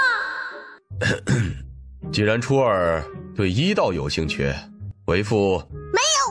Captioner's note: cough